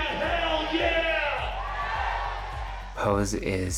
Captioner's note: cheering